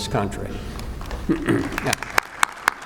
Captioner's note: applause